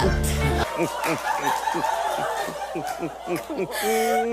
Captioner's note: evil laughter